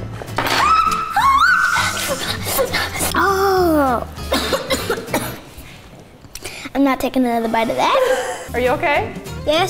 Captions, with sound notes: - Hot, hot! (screaming) (moaning) (coughing) - I'm not taking another bite of that.